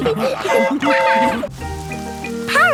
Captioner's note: train whistle toots